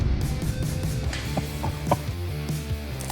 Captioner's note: laughing